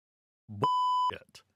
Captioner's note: beep